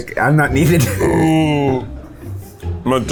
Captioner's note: burps